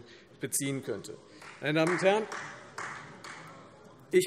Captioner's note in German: Beifall Freie Demokraten